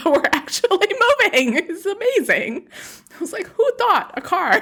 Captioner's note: laughs